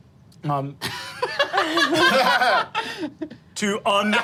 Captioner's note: group laughing